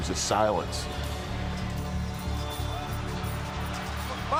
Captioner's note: crowd cheers